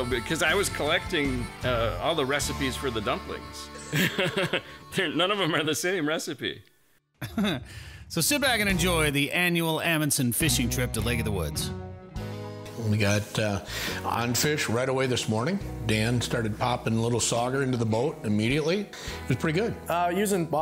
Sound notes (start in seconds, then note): 3.7 chuckles; 7.2 chuckles